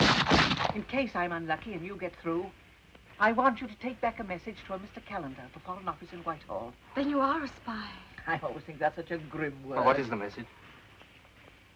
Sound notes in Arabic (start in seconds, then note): 2.6 طلقات نارية